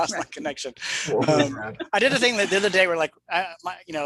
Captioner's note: laughs